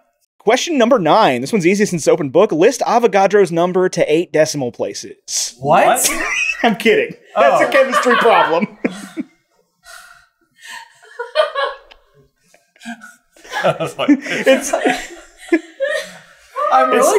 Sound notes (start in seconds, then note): 7.4 giggles; 8.8 team laughter; 15.1 team laughter